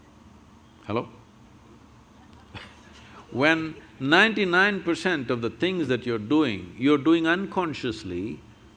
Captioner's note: laughs